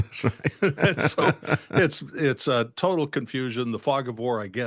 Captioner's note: laughing